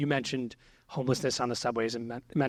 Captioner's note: none